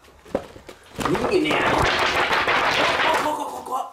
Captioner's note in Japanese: スケッチブックを揺らす音